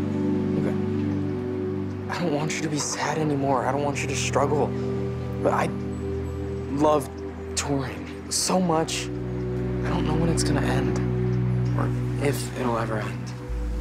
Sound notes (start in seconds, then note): none